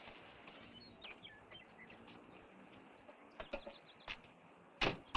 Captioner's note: birds chirping